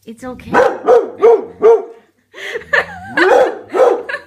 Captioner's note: barking